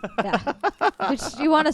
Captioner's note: laughing